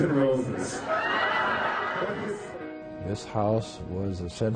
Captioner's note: laughing